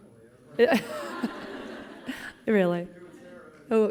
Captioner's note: laughing